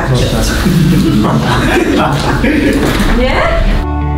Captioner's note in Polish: śmiechy